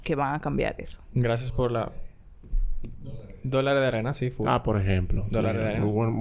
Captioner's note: whispering